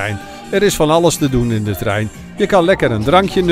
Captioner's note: voiceover